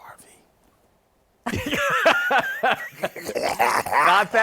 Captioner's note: laughter